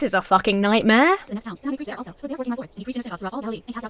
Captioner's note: movie dialogue plays in fast-forward